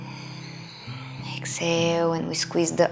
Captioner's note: exhaling